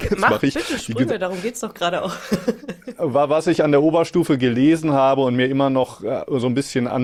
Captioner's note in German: gelächter